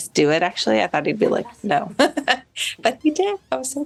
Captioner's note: chuckles